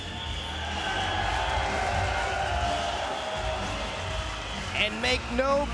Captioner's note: spectators cheering